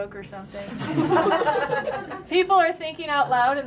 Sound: laughter

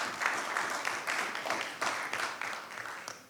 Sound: clapping

